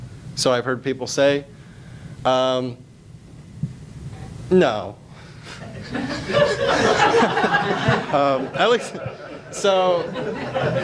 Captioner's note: audience laughs